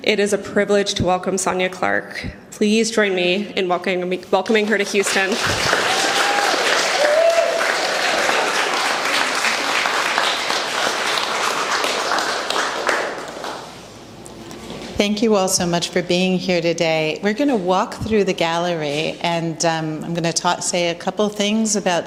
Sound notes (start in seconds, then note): 7.0 applause, cheering